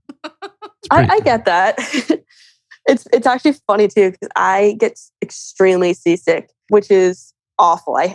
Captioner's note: laughs